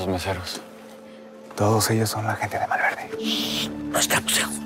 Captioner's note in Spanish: En voz baja